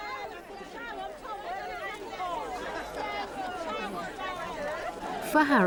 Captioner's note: crowd chattering